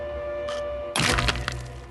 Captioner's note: crack